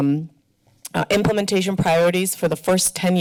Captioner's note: tongue clicks